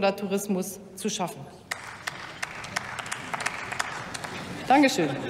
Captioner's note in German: Beifall des Abg